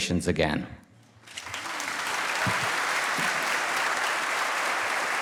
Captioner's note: applause